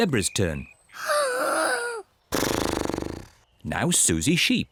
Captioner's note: inhales and snorts